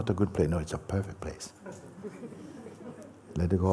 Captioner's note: laughter